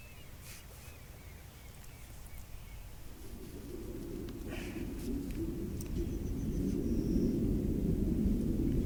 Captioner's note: underwater sounds, bubbling